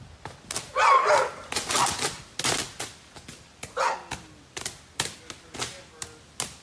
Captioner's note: dog barking; electricity crackling